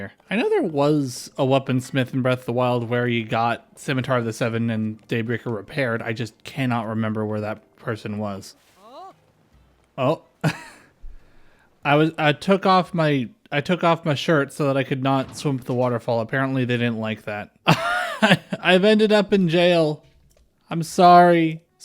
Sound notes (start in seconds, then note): 8.8 laugh; 17.6 laughter